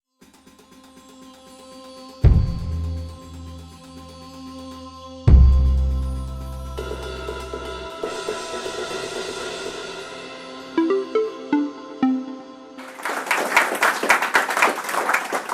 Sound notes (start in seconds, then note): 3.5 applause